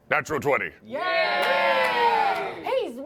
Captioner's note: cheering